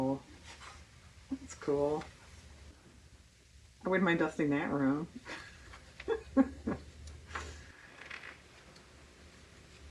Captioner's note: laughs